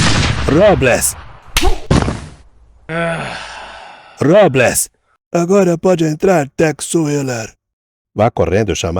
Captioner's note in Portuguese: suspirando